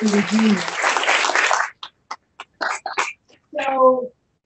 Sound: applause

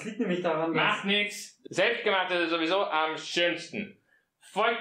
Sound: slurring

